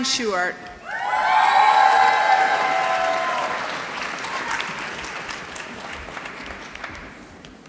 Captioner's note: applause